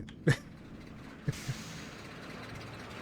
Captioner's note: chuckles